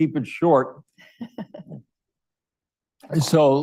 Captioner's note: laughs